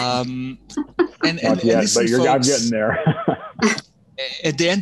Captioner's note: laughing